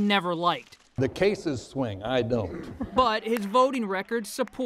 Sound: applause

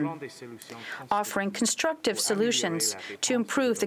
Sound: speaking french

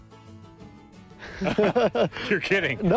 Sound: both laughing

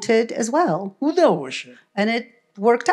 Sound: foreign language

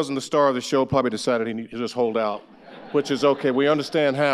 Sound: audience laughs

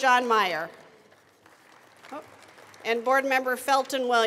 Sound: attendees applauding

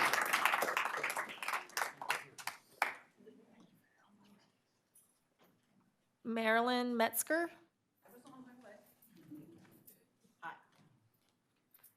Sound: applause

